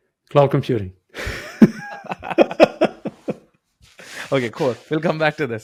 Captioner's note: laughter